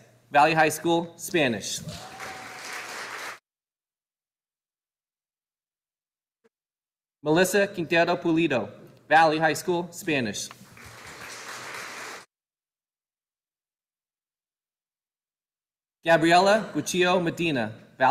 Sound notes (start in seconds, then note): 1.8 audience applauding; 10.6 audience applauding